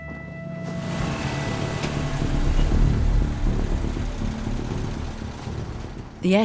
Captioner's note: dramatic music; engine revs